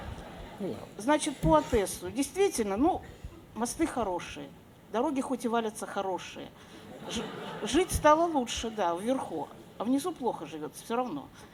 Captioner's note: laughter